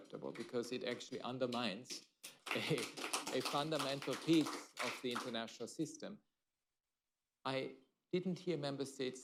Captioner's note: applause